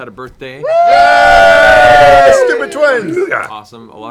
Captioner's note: cheering